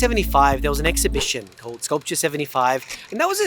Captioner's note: air whooshing; film reel clicking